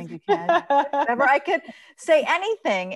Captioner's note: laughs